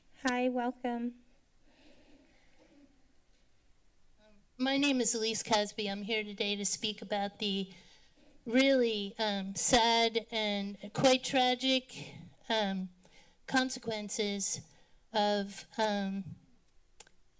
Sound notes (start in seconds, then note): 1.6 breathing; 7.7 breathes; 11.9 sigh